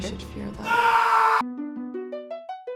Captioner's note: screaming